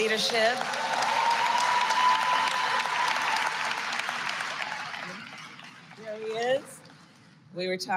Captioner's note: applause